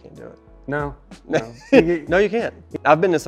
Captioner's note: chuckles